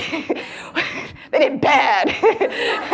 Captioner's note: laughs